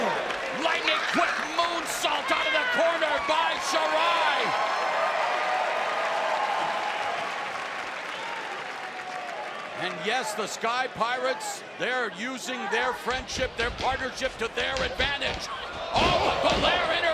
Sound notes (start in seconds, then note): 3.8 crowd cheering